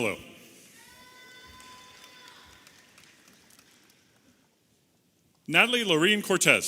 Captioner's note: audience applauding and cheering